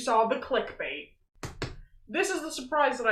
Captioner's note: tapping on box